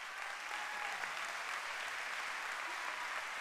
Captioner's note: applause